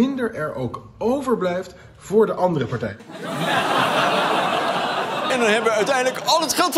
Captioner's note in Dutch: gelach